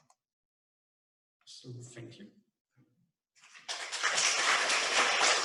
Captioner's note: clapping